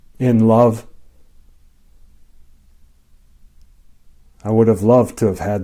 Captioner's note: silence